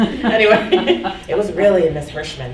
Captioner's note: laughing